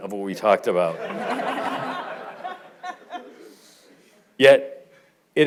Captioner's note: audience laughing